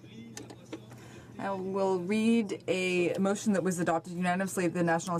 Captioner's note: speaking in french